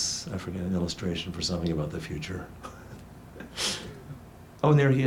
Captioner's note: laughs